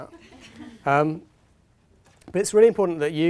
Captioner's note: audience laughing